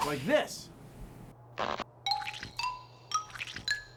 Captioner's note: squishing